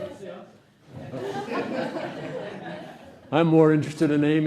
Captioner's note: laughter